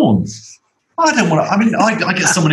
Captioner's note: laughter